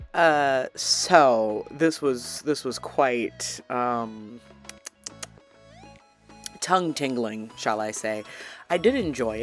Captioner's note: smacks lips